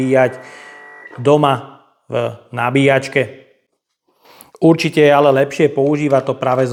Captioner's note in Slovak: smrkanie